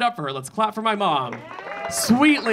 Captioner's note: audience clapping; audience cheering